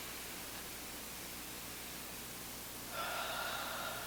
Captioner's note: both inhaling; both exhaling